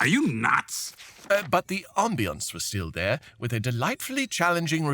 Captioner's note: page turns